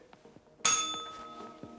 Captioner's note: bell rings